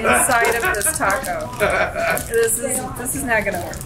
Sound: laughs

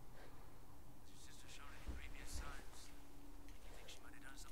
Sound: Muffled Zeeland Recording

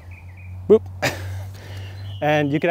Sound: laughs

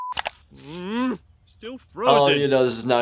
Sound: grunts

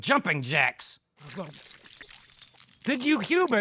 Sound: water splashing

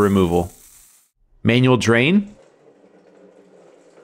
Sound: tap water running

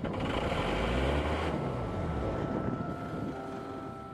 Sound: engine roaring

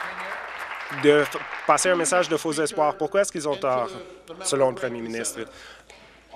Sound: applause

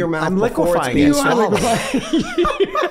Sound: laughing

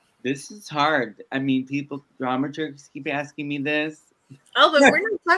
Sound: laughs

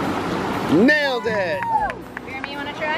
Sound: family cheers

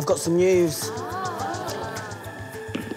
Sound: audience gasps

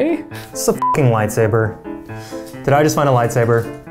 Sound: beeping

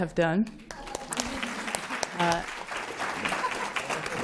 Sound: applause

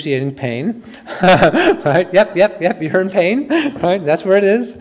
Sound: chuckles

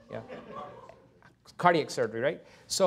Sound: laughter

